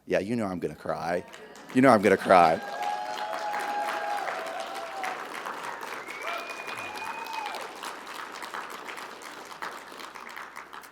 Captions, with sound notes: Yeah, you know I'm gonna cry. You know I'm gonna cry. (audience applauding) (audience cheering)